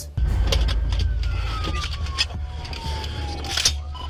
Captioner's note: police sires echoing